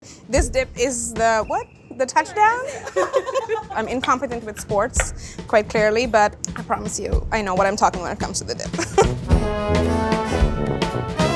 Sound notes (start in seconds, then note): 3.0 crew laughs; 8.9 big band music